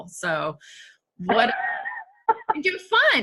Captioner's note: laughs